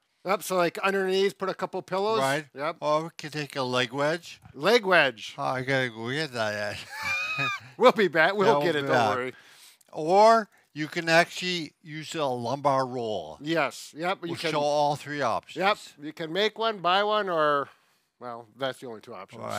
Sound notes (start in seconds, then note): 6.8 laughs